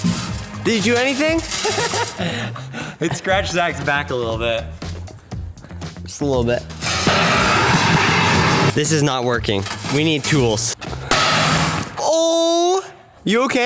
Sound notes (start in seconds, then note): 1.4 laughs; 7.0 metal box clangs; 10.9 brick hits metal box